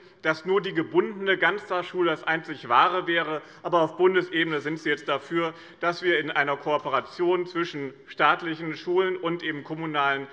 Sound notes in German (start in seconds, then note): none